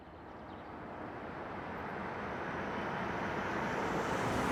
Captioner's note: car approaching